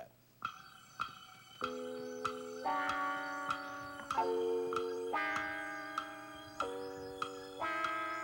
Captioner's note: clock ticking